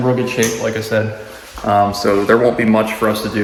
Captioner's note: light switch clicks